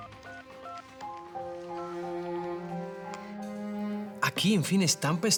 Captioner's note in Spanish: Sonido al marcar